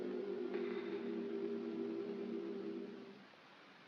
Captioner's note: choir humming; puff sound